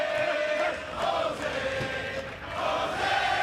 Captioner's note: fans chanting